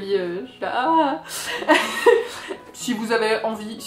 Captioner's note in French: rires